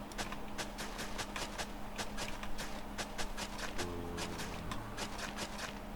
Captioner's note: typing